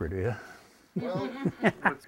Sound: laughter

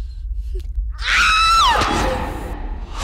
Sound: scream

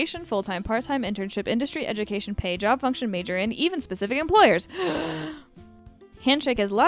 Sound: gasps

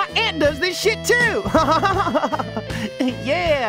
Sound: chuckles; chuckling

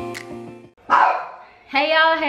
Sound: dog barks

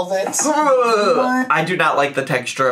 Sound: groaning

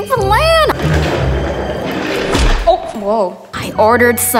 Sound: rolling sounds

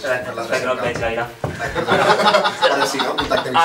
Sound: laughs

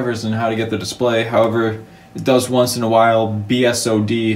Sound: none

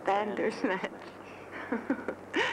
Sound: Ev chuckling

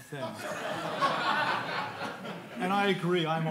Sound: audience laughing

